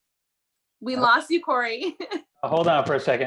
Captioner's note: chuckling